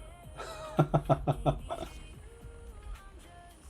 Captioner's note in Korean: 웃음